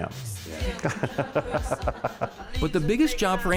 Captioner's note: laughing